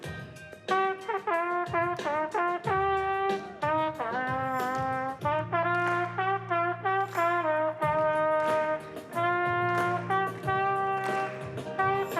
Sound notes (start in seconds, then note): 0.1 percussive music plays; 0.1 plays upbeat music; 5.1 all clap along